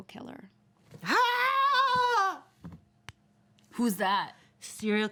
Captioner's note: woman yells